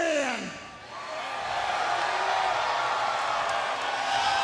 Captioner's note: crowd cheering